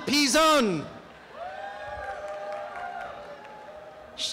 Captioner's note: applause and cheering